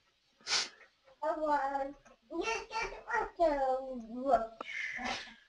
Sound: kids murmuring

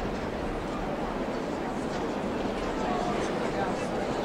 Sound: crowd chatting

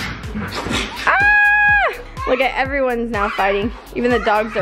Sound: screams

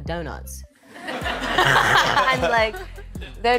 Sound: laughing

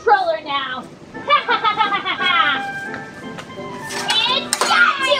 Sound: laughs

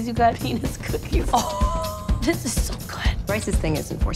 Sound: laughs

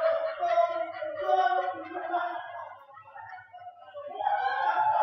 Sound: extended party noises from downstairs in the shop

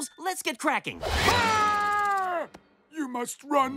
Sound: screaming

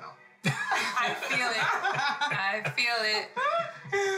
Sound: laughter

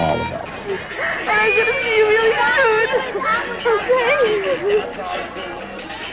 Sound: crying

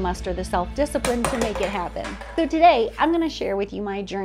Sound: none

